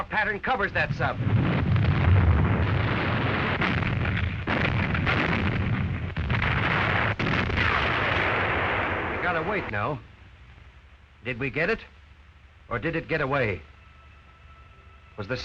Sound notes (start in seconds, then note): 2.4 loud explosions